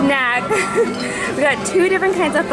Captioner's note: laughs